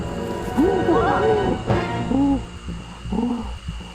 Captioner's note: ape grunting